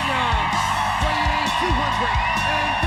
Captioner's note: crowd cheering